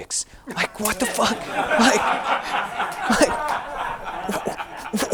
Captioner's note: audience laughing